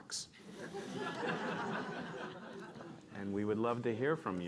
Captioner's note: laughter